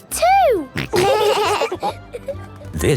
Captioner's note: laughing